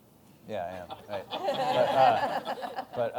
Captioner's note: laughter